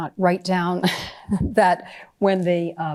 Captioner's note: chuckling